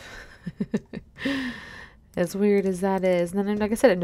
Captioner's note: laughs